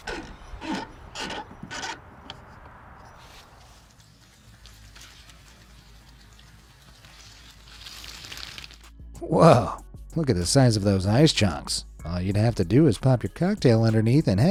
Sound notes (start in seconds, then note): 0.0 regulator grinding; 6.1 water gurgling